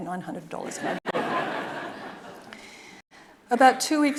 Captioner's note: audience laughing